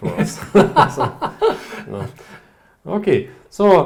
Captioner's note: laughing